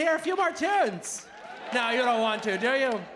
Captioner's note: audience applauding